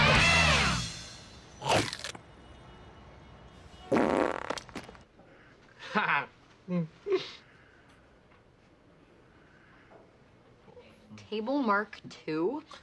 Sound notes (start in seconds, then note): 1.5 big chompp noise; 3.9 big fartt noise